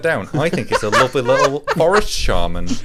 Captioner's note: laughing